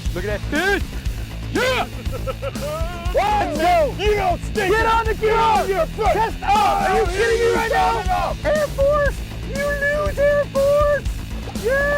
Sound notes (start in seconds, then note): 0.0 upbeat rock music; 1.5 laughing